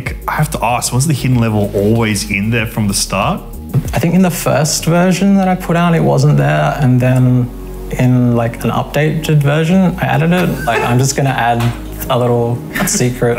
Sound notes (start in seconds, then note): 10.3 laughing